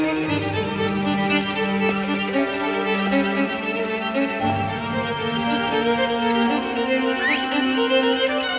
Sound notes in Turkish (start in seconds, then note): 0.0 gerilimli duygusal müzik devam eder; 7.0 ıslık